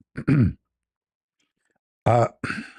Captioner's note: berdehem